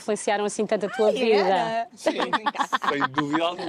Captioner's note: laughs